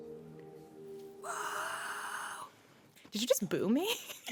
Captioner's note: music fades; whispered